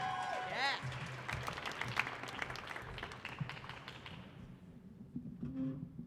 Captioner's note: audience clapping